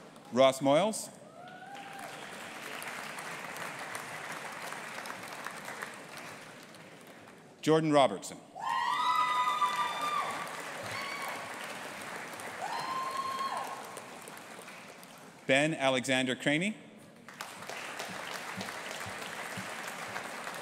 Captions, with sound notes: Ross Moyles. (AUDIENCE APPLAUDING) Jordan Robertson. (AUDIENCE APPLAUDING AND CHEERING) Ben Alexander Crainie. (AUDIENCE APPLAUDING)